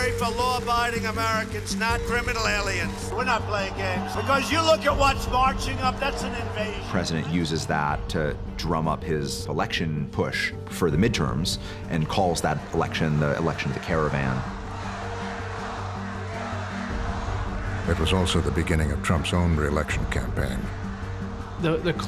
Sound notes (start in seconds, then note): 15.4 chanting